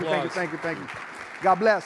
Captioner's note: audience clapping